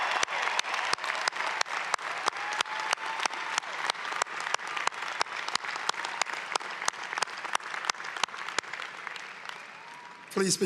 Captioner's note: applause